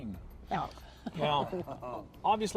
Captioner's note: laughter